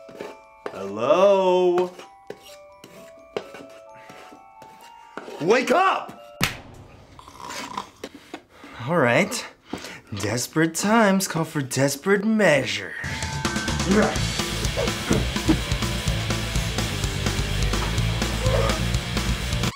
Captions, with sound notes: Hellooooooooooooooo? WAKE UP! [slap] Alright.. Desperate times come for desperate measures. [intense rock music]